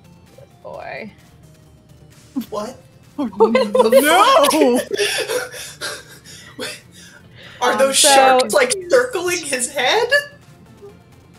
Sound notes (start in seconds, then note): 5.0 overlapping chatter and laughter